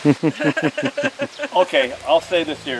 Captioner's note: everyone chuckling